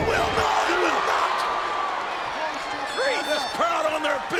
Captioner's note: audience cheering